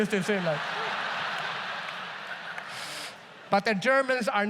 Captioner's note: audience laughs